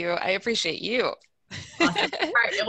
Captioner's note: laughing